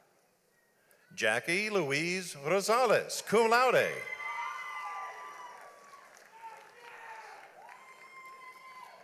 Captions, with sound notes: Jackie Louise Rosales, cum laude. (audience applauds)